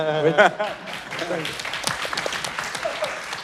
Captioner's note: applause